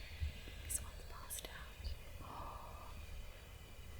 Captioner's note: whispering